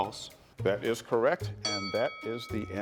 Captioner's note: bell chimes